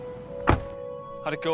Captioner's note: door clicking